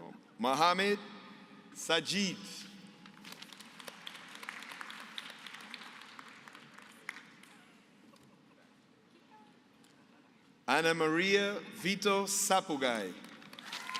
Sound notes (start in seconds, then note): 3.0 applause